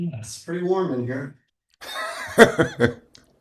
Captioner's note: laughs